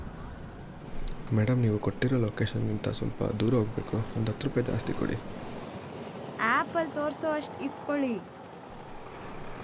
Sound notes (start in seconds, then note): 1.4 people speaking foreign language